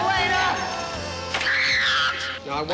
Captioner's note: screams